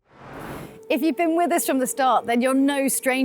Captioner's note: in English